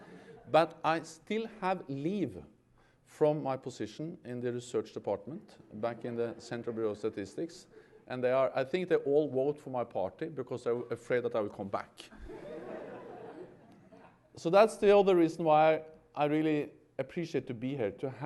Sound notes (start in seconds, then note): 12.1 laughter